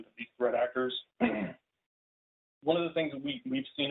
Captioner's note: clears throat